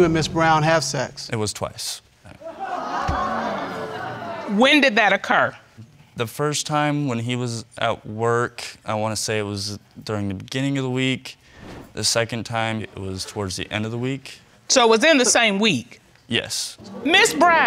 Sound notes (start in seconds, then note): 2.4 audience exclaims